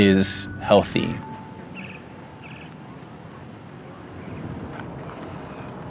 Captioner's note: birds chirping